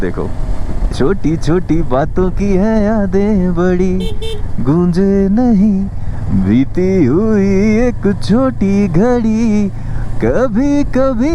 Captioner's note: humming song